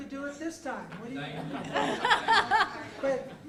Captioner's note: laughter